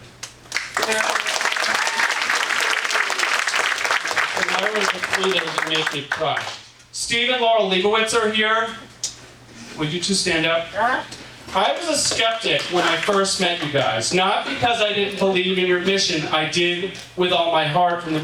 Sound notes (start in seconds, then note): 0.4 audience applauding